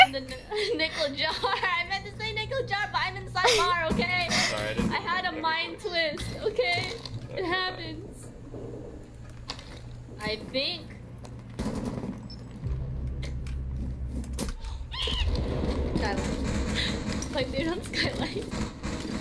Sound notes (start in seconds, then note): 15.0 screech that sounds like a rubber ducky being stepped on; 17.6 chuckling